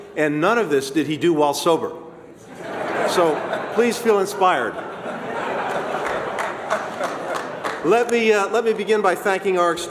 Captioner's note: laughter; applause